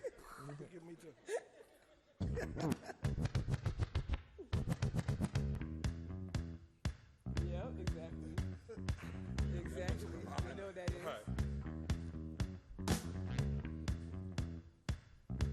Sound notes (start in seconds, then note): 3.9 upbeat music; 8.5 laughs